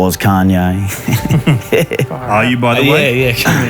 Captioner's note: both laughing